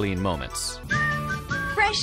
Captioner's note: whistling